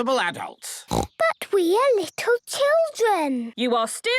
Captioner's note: snorting